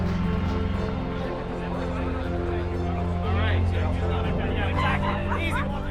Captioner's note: whistling and applause; indistinct chatter; inspirational music